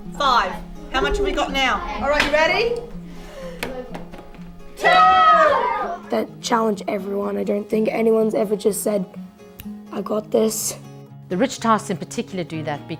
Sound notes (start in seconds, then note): 4.7 students cheering